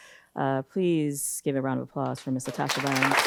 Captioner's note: audience applauding